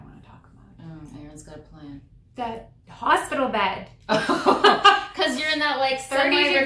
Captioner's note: laughter